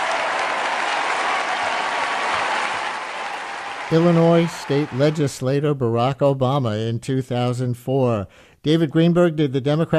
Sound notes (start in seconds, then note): 3.9 applause